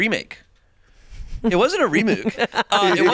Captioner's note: laughing